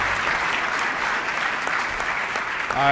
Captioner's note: applause